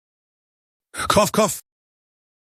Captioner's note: cough cough